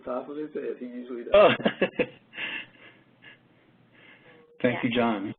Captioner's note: laughing